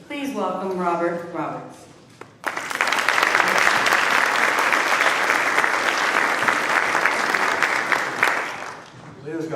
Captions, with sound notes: please welcome Robert Roberts. (applause)